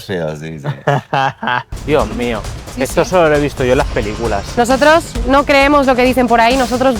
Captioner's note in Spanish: risas